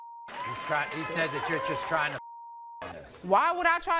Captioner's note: beep; beep